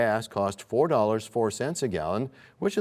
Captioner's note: none